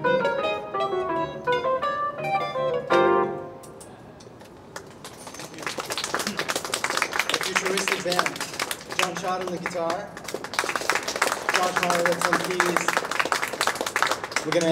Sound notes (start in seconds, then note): 5.4 clapping